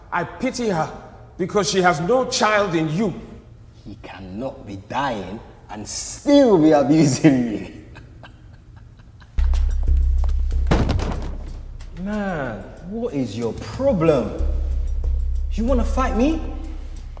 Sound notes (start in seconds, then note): 7.5 laughs; 9.4 tense dramatic music